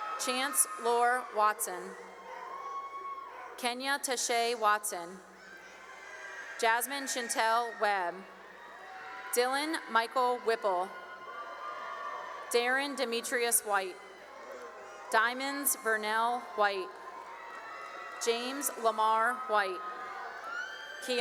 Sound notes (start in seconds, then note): 0.0 cheering; 8.4 cheering; 11.5 cheering; 14.3 cheering; 17.2 cheering; 20.0 cheering